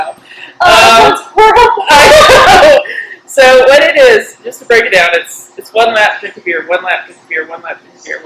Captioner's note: laughter